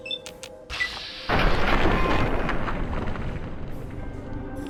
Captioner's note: explosion